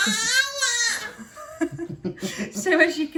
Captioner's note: laughs